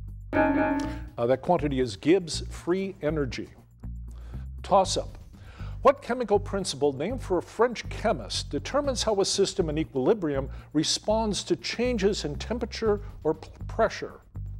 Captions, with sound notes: [bell dings] That quantity is Gibbs free energy. Toss up, what chemical principle named for a French chemist determines how a system in equilibrium responds to changes in temperature or pressure?